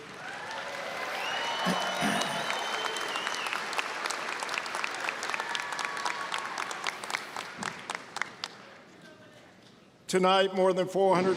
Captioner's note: applause, cheering